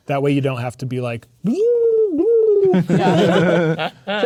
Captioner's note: makes exaggerated garbling sounds; players laughing